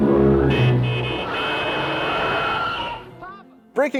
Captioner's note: horn honking